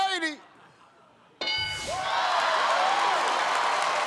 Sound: cheers and applause

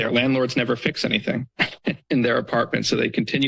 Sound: chuckles

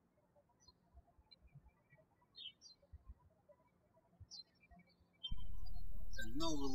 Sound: birds chirping

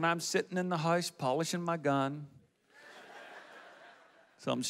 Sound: audience laughs

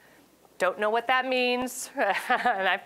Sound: laughing

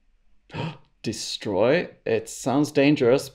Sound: gasps

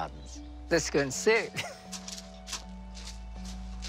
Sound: laughs

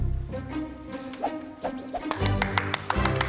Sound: hand waving sound; clapping

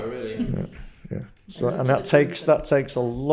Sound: murmurs

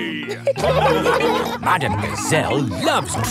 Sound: laughing

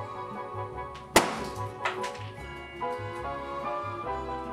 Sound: balloons pops

